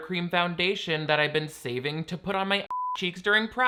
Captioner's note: beep